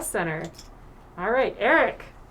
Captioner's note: clink